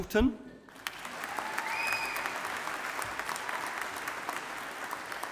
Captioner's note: audience applauding